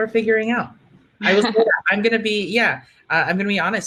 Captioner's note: laughing